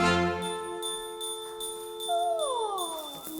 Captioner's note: dinging; laughing